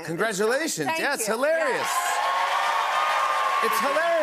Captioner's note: cheers and applause